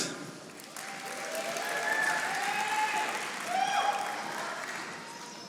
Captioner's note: audience applauding